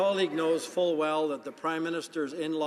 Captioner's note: some Applause